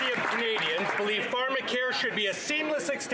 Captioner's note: some Applause